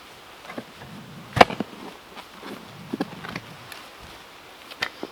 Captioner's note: shovel thumping